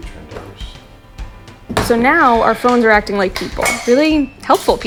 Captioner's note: podcast Voice